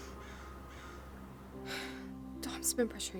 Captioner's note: sighing